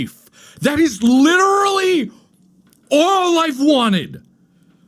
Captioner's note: almost yelling